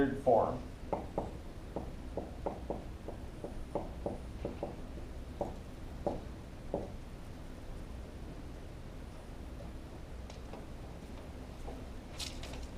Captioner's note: marker on whiteboard